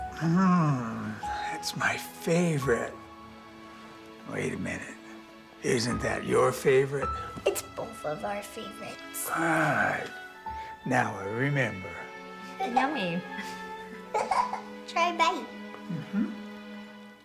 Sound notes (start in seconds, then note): 13.9 Joslyn giggling